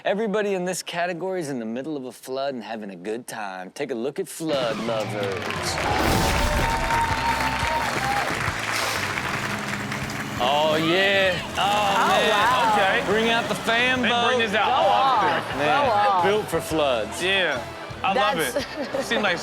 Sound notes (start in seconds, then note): 5.5 audience cheers; 5.5 rock music; 14.6 audience laughs; 18.3 audience laughs